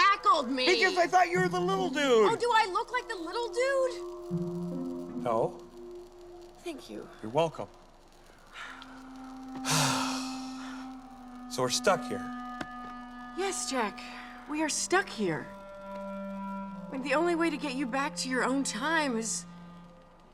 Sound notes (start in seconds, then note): 9.6 sighs